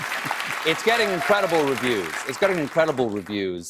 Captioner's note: cheers and applause